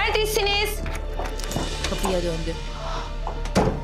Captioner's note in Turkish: Kapı açılma sesi; Kapı kapanma sesi